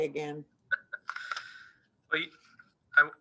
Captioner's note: laughing